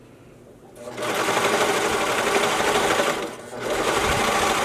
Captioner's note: machine whirring